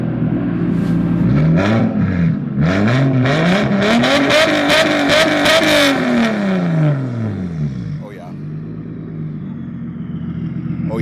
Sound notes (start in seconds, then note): 0.1 engine revs; 9.5 engine revs